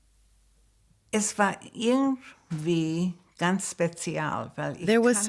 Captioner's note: speaks in German